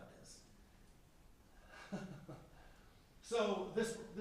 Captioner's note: chuckles